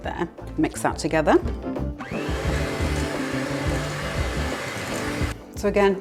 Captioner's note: cake mixer whirring